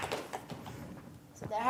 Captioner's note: audience applauding